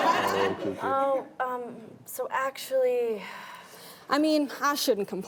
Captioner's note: laughing